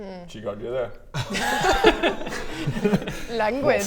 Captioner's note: laughter sounds